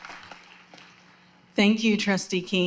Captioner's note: applause